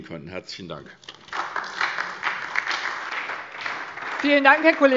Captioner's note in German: Beifall SPD und DIE LINKE